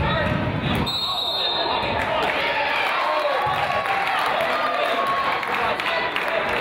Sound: whistle blows; crowd applauds

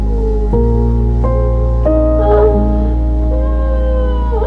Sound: crying

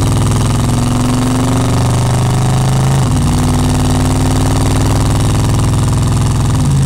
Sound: car engine roaring; car engine continue

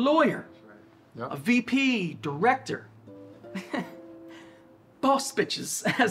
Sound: laughs

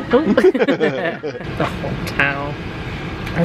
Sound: chuckles

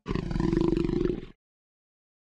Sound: growling continues

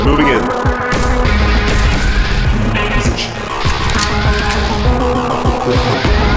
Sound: shots firing

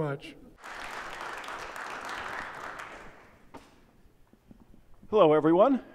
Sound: applause

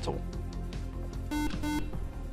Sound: buzzer

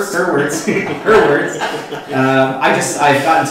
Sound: laughter

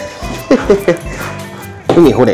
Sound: laughs

